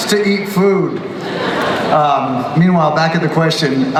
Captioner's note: everyone laughs